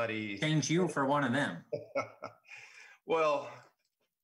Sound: laughing

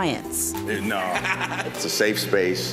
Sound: client chuckling

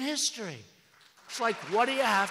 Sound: applause

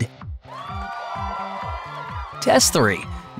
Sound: crowd Cheers

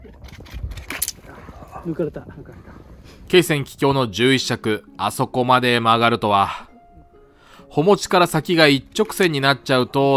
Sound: sound of popping

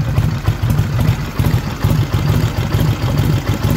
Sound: engine revving

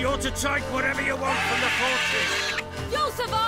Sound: screech

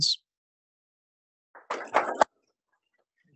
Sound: applause

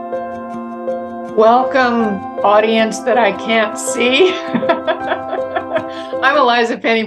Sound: gentle music; laughs

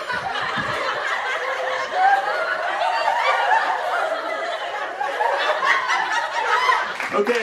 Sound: studio audience laughing

